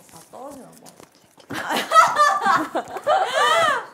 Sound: laughing

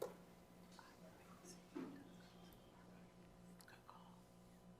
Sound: speaking faintly

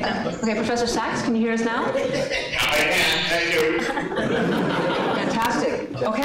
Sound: laughter

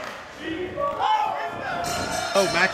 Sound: bell rings

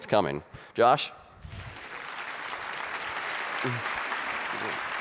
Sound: audience applauding

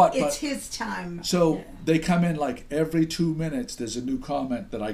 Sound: voiceover

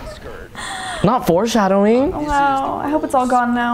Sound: swoons

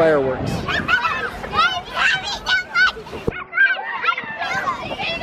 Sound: laughs

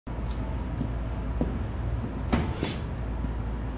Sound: footsteps

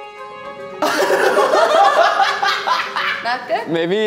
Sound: contestants laugh

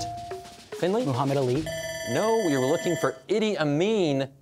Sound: bell ringing

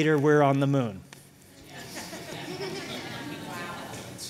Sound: laughter

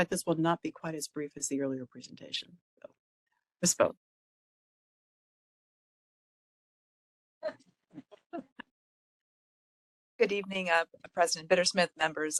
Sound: laughing

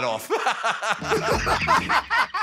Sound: laughter

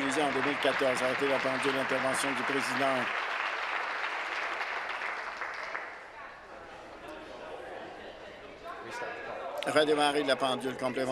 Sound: some Applause

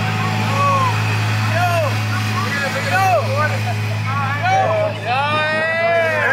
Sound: kids calling out and laughing

